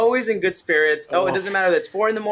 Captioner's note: chuckles